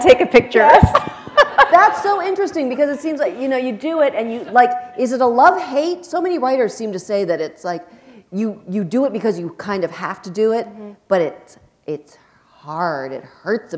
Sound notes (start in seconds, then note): 0.9 laughter